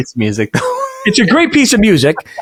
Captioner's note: laughing